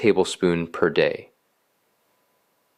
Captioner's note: pause